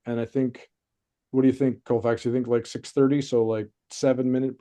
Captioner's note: none